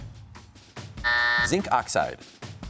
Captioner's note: buzzer sounds